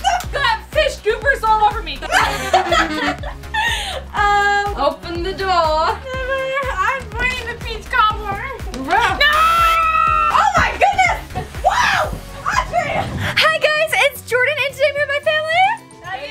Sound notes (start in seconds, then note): 2.0 laughter; 9.5 buzzer sound